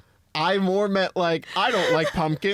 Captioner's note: laughing